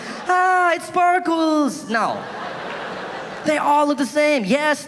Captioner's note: audience laughing